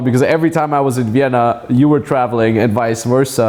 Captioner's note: none